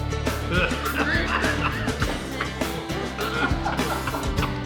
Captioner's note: laughing